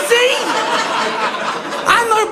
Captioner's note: audience laughing